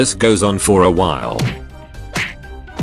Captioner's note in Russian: удар x7; удар x8; удар x9